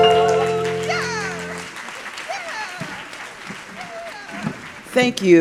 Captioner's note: applause